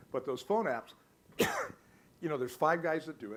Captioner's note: coughs